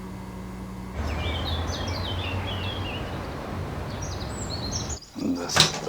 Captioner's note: birds chirping